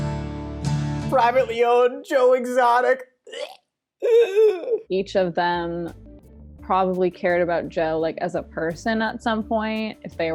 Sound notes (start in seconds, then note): 4.0 gags